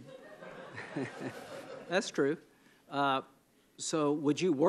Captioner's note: laughter